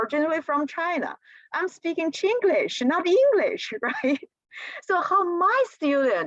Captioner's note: laughter